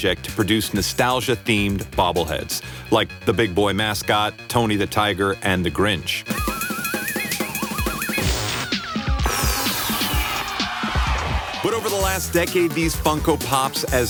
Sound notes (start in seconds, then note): 6.5 jaunty music; 9.2 audience cheering and applauding